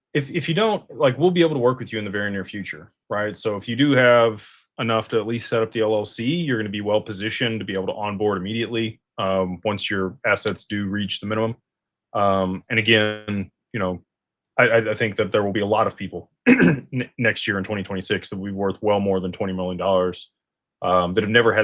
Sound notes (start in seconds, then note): 16.4 clears throat